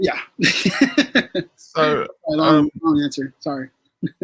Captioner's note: laughs